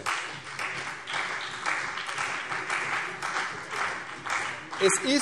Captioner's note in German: Beifall CDU und BÜNDNIS 90/DIE GRÜNEN